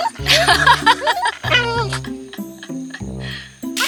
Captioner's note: laughs